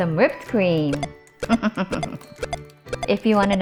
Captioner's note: chuckling